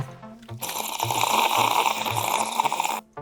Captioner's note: slurping